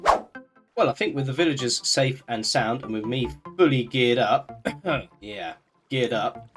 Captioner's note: cough